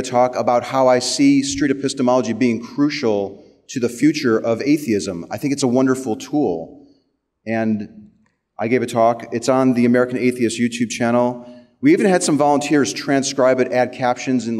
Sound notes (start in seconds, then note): none